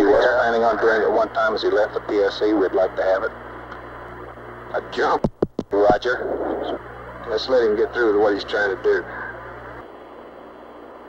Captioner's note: mission Control Audio